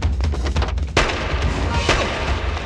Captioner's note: gun Firing